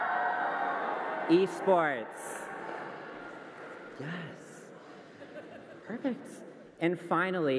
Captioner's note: cheering and applause